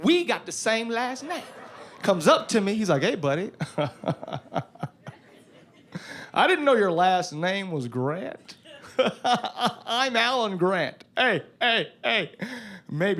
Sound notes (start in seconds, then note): 3.6 imitating laughing; 8.5 laughing